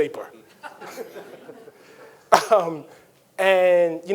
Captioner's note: audience chuckling; Ta-Nehisi chuckles